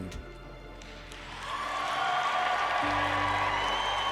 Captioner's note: crowd cheering